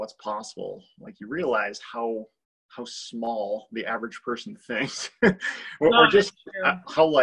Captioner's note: laughs